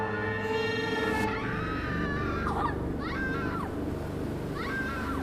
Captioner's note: siren screams